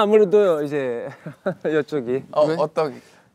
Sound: bashful laughter

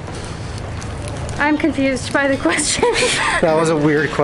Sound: laughs

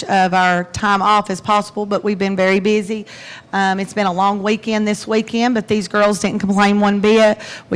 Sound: none

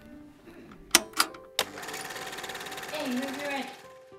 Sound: projector starting noise

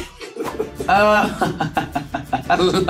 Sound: laughs

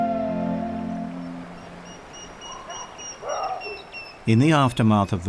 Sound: birds chirping

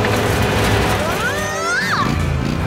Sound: groaning

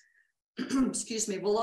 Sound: coughing

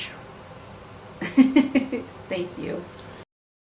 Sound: laughs

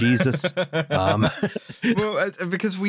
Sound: laughing some more

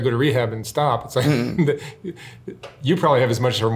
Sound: laughing

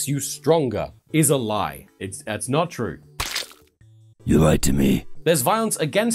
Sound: splat

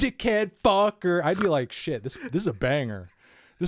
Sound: snorts

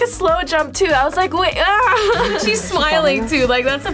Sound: laughs

